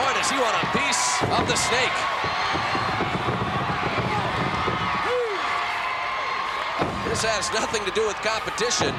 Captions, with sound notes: And, boy, does he want a piece of the Snake. (feet stomping) One, two! This has nothing to do with competition.